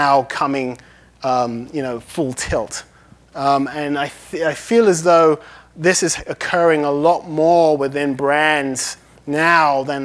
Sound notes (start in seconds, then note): none